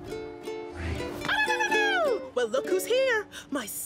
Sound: ululating

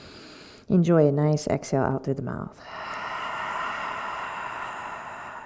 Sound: deep exhale

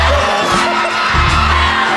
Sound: signature philza laugh

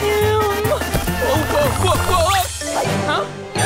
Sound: groaning; sighing

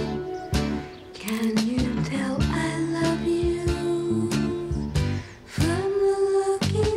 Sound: camera shutter clicks

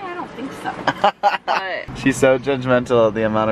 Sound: laughing

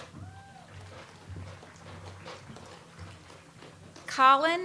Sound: audience applauds

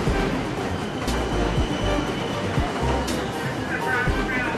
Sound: train screeching

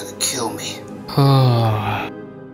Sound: he lays back down and sighs

